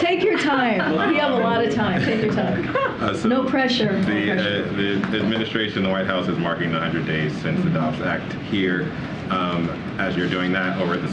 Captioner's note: laughter